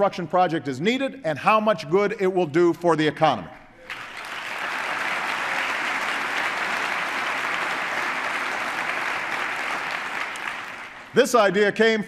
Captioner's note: applause